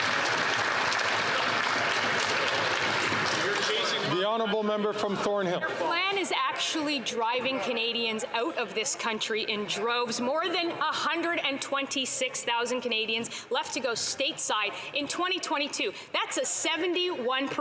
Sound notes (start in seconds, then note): 4.4 some Applause